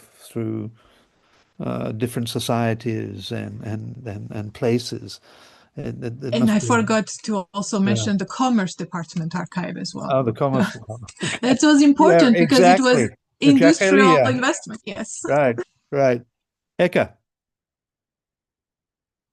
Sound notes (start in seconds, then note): 10.1 chuckles